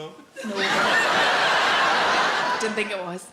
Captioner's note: audience laughs